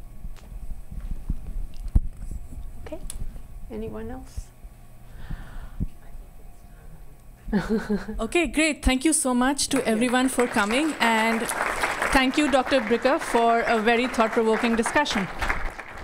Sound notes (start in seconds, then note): 7.5 laughing; 9.7 audience applauding